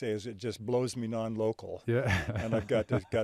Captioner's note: chuckling